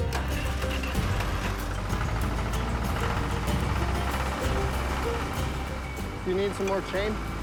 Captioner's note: engine starting